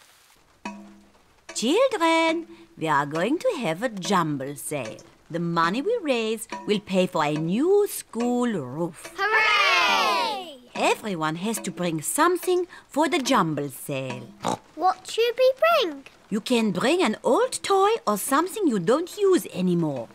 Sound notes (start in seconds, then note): 14.4 oinks